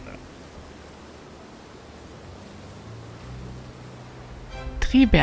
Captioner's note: wind whooshing